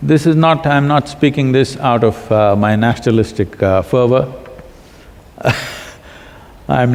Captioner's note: laughs